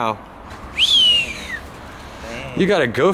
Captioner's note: whistles